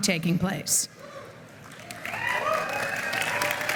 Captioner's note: applause